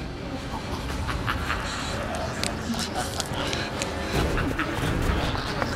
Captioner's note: demonic Laughter